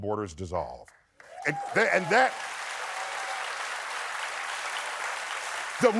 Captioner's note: applause